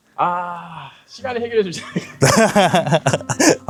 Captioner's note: laughs